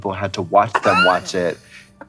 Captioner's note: Trixie cackling